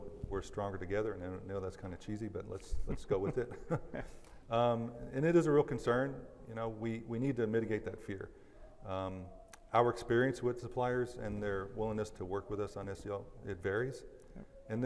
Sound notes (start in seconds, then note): 2.8 laughs